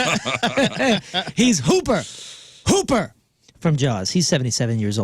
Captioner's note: laughter